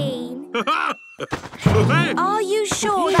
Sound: laughs

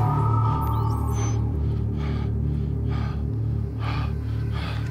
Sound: Rahel panting

